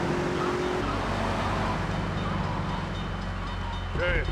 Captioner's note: plane engine roaring